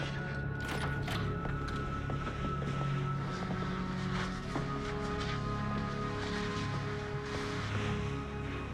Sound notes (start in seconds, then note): 0.5 door opens